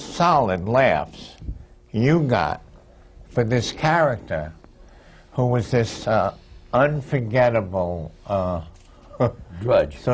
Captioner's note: laughs